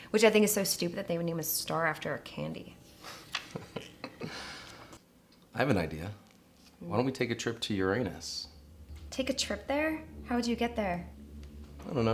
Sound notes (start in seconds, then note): 3.2 Rick chuckles; 7.6 foreboding music